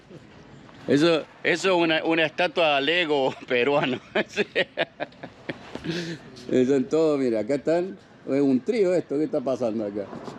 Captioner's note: joking laughter